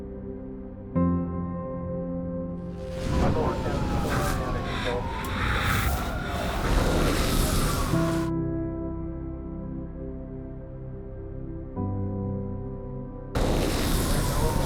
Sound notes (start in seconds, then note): 2.7 sirens wailing; 13.3 sirens wailing